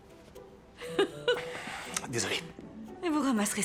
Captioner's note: laughs